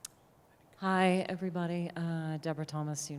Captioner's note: voiceover